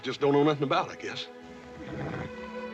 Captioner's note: horse whinnies